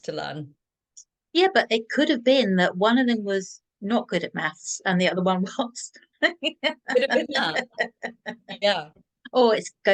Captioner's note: laughter